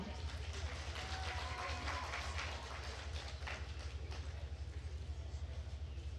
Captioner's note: attendees cheering and applauding